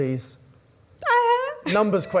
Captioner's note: woman screams